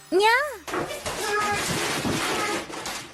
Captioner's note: sound of falling from a chair